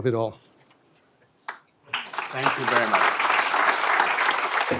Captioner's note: applause